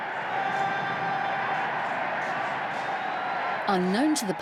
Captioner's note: crowd cheering